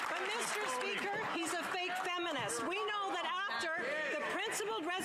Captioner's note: cheering and Applause